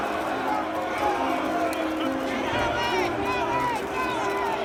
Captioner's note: crowd yelling, fighting